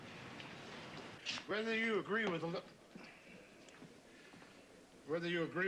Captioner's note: slurred